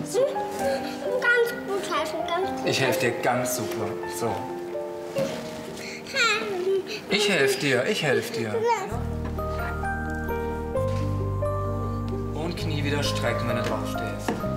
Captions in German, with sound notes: Ganz gut helfen! - Ich helf dir ganz super. So. (Nervöse Laute) Ich helf dir, ich helf dir. (Sanfte Musik) Und Knie wieder strecken, wenn du draufstehst.